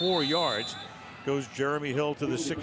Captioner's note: whistle